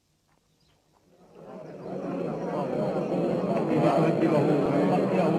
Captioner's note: crowd murmuring